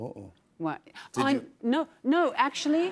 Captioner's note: gasps